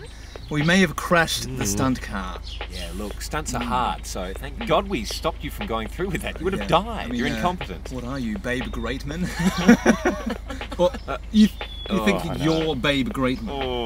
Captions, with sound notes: We may have crashed the stunt car. Yeah look, stunts are hard, so thank God we stopped you from going through with that, you would’ve died! You’re incompetent. What are you, Babe Greatman? (laughs) You…you think that YOU’RE Babe Greatman?!